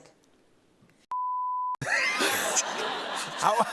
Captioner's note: laughter